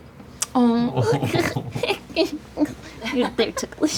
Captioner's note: giggles